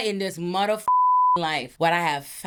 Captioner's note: beep